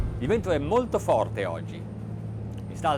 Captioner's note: ominous music; man speaks in foreign language